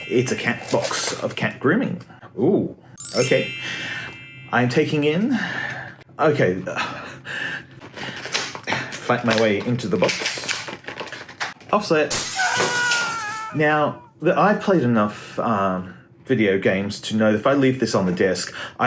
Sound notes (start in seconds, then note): 12.1 glass shattering; 12.2 man yelling